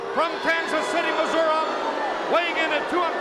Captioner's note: crowd boos